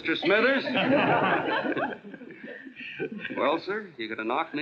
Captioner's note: laughing